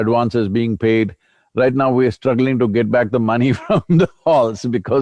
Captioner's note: laughs